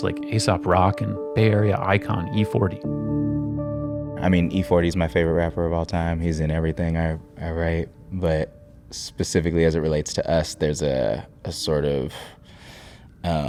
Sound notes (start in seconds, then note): none